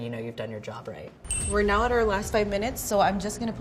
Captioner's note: countdown sound